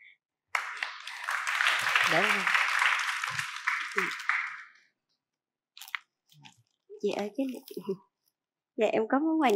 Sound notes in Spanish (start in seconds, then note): 0.5 Aplaudir